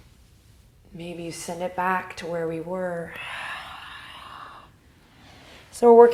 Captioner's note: exhales